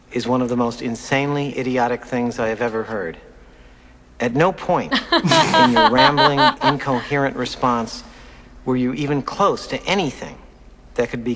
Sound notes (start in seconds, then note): 4.9 both laugh